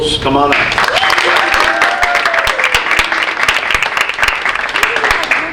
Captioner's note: audience applauding